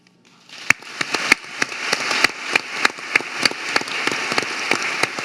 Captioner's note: audience applauding